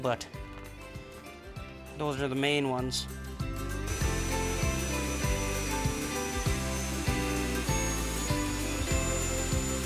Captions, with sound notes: but those are the main ones. (buzzing and whirring) (upbeat music)